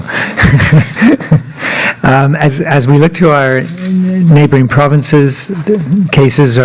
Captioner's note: laughter